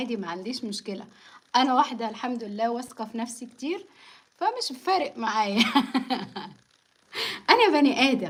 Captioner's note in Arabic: ضحك